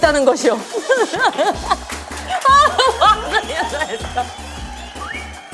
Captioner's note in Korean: 박수